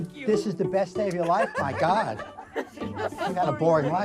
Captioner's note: crowd laughing